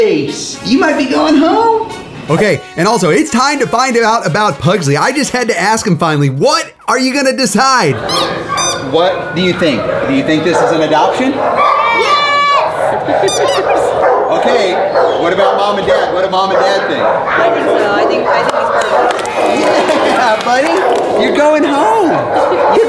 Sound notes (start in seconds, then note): 8.0 dog toy squeaks; 13.2 laughs